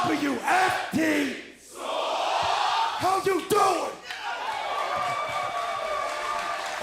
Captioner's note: crowd cheering